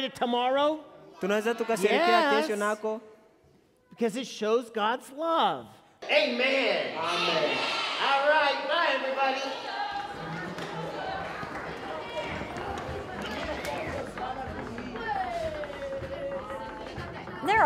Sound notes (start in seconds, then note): 0.3 speaking foreign language; 3.8 speaking foreign language; 12.9 indistinct chatter